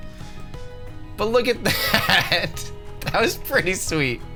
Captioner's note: laughs